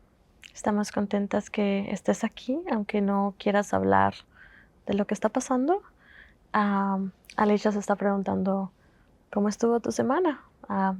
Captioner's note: Spanish